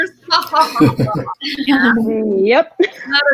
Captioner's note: laughs